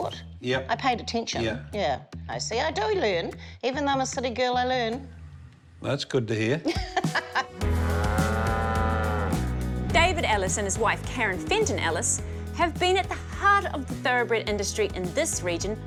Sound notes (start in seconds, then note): 6.7 laughs; 7.6 bright music; 7.6 cattle low